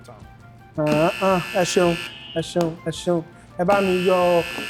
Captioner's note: buzzer pressed